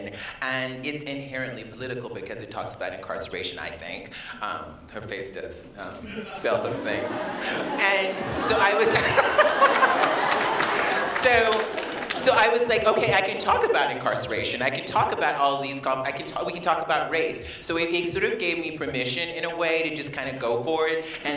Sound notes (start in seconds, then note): 10.4 laughter